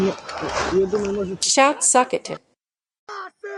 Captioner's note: shout